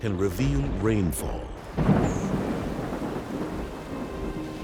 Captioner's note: thunder booms